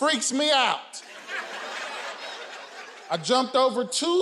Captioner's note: audience laughing